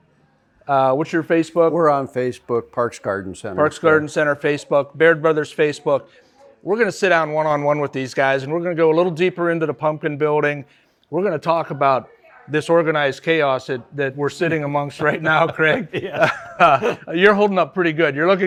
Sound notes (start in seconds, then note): 14.9 laughs